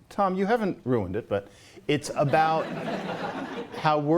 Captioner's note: laughter